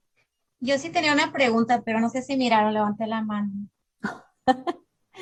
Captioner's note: speaking in Spanish